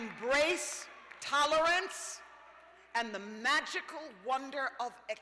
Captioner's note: applause; cheers